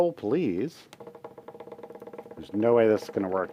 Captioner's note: fingers drumming on table